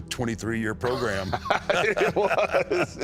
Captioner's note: both laugh